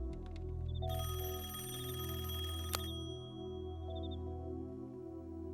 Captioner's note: rings